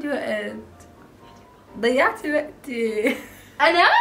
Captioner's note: whispers